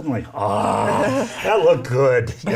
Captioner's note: laughing